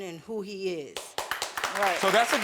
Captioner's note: audience clapping